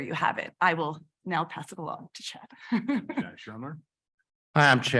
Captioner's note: chuckles